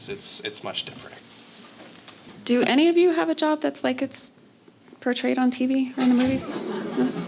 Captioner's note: laughter